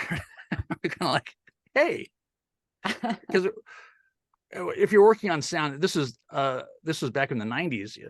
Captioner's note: laugh